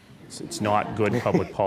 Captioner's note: laughing